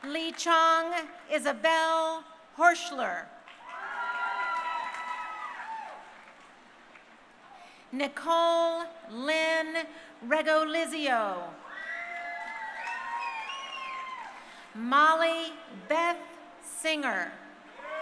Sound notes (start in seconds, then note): 3.5 crowd cheering; 11.6 crowd cheering; 17.7 crowd cheering